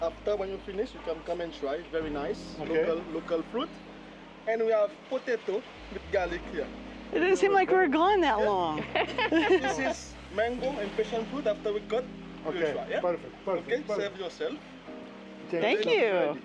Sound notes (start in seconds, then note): 8.7 laughter